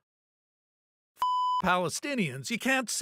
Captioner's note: beep